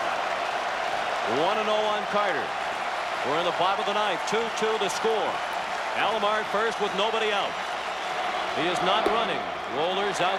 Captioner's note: applause